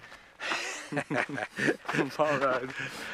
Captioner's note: both laugh